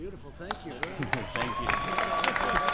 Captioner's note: applause